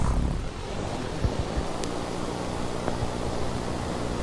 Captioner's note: static hissing